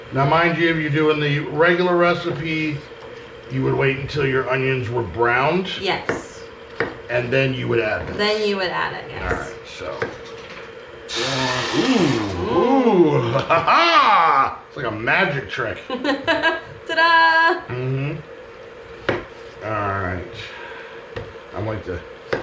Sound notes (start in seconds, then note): 11.0 broth sizzling; 16.6 laughing